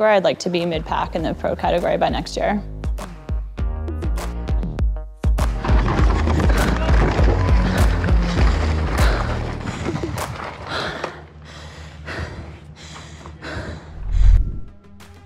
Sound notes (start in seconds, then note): 5.4 rocks crunching; 10.4 breathing heavily